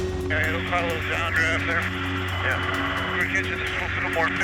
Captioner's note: dramatic music; muffled radio chatter